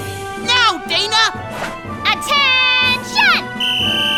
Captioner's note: whistle blow